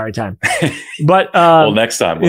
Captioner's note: laughs